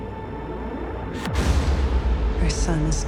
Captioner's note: fire roaring